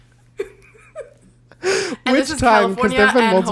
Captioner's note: laughs